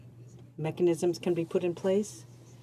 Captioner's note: speaking in French